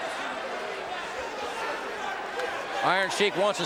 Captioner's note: audience cheering